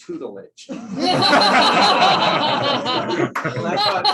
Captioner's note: laughter